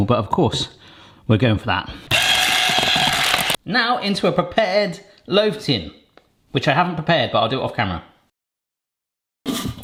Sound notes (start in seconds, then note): 2.1 hand mixer whirring